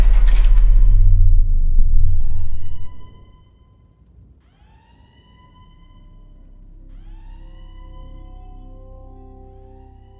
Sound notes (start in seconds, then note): 0.0 lights clang; 1.9 siren blares